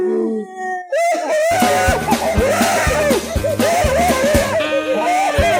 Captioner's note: weeping